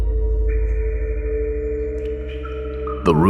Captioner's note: dissonant hum; echoed water dripping